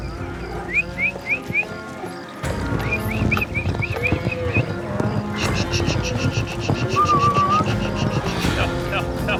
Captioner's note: whistling